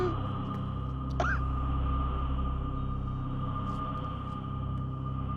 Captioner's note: coughs